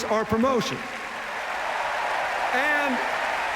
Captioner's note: cheers, applause